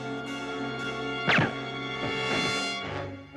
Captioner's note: gun fires